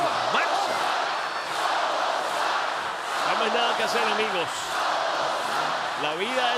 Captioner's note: applause